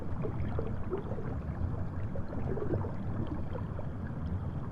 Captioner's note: water sloshes